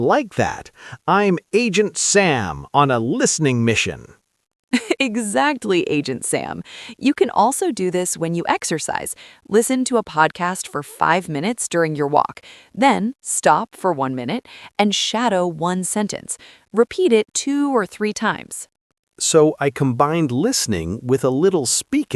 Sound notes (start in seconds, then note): 4.8 laughs